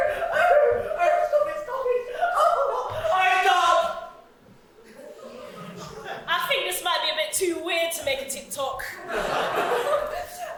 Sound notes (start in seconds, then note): 0.0 high-pitched laughter; 1.3 through laughter; 3.2 laughter stops; 4.8 audience laughs; 9.0 audience laugh